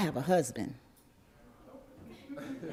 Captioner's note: laughter